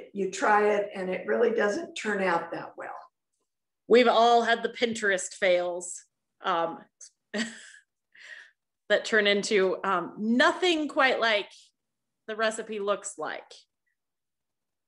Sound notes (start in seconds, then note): 7.3 laughter